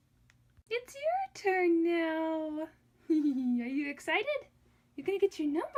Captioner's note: laughing